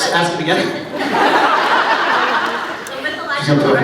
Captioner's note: laughs